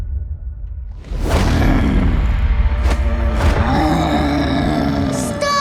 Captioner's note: grunting